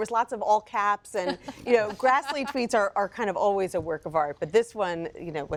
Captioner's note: laughter